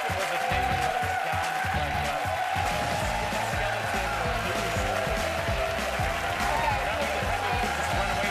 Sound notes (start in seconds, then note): 2.7 indistinct chatter